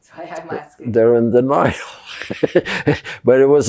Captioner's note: laughing